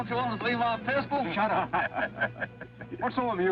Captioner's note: sheriff laughing